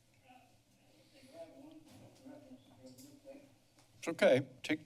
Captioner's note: background chatter